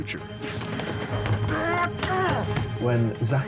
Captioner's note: goose grunts